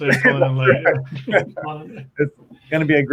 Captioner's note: laughs